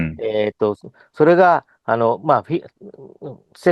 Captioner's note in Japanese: 咳払い